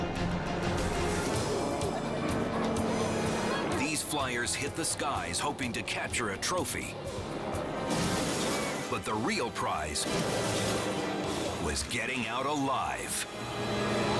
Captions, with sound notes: (engine roars) These flyers hit the skies, hoping to capture a trophy, but the real prize was getting out alive.